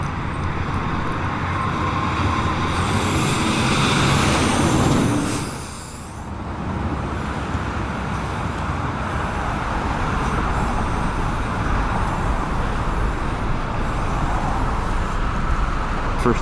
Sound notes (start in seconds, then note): 3.2 paint spraying